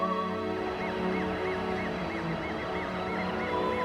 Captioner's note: police sirens